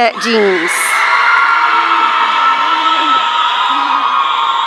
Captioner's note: audience cheering